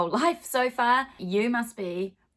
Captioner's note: laughing